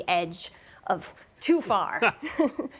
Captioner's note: laughs